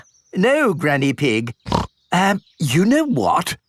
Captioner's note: snorts